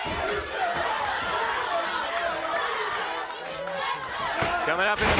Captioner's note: crowd clamoring